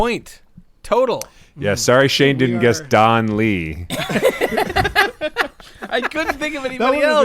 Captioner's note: laughter